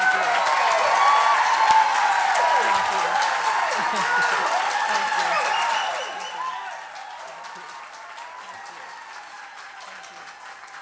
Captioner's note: cheering